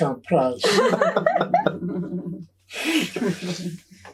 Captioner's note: all laughing